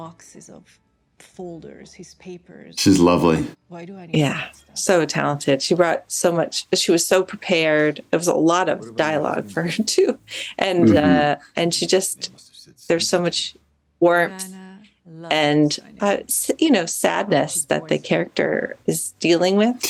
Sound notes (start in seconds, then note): 10.8 chuckles